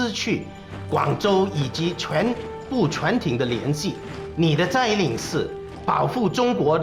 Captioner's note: speaking Chinese